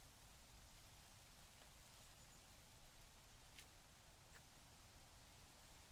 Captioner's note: wind blowing